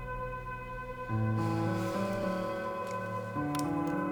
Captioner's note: sighs